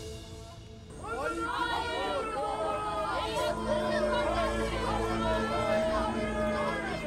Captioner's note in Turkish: Kalabalık bağrışma sesleri